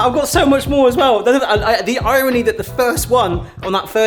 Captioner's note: stammering